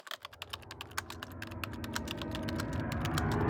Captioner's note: typing